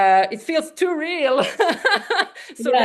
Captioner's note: laughs